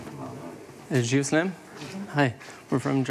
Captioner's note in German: englisch